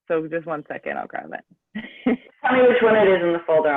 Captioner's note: laughs